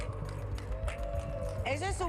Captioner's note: aplausos